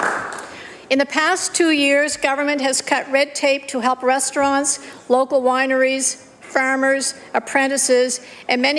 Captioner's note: applause